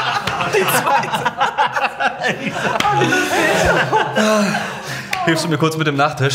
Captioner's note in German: Gelächter